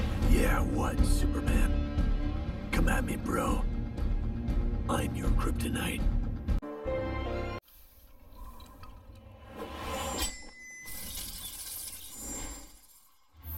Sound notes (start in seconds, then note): 10.9 bats flying